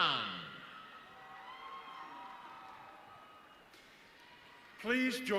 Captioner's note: audience cheering